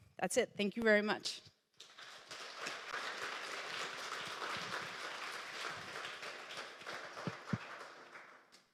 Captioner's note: applause